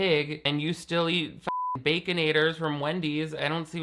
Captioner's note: beep